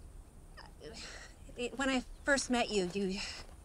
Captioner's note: sighs